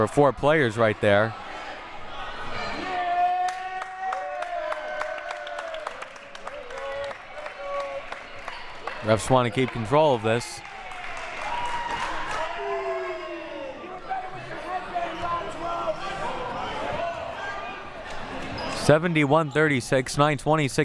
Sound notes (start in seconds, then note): 2.6 audience yelling and applauding; 11.6 audience chattering and yelling